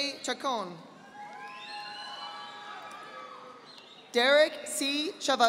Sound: audience applauding

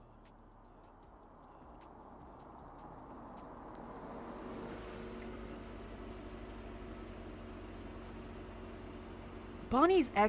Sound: engine purrs

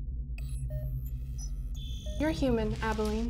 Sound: device beeps and trills

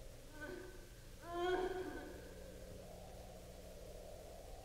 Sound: woman sobbing

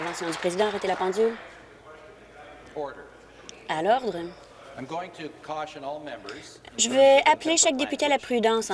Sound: applause

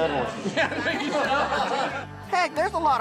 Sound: laughter

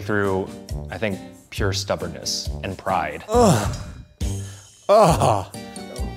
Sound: groans

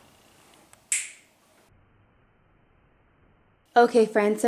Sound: finger snaps

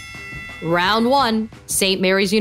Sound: boxing bell ring

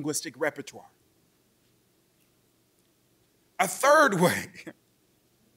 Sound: chuckling

